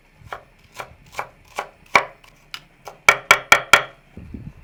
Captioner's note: knife chopping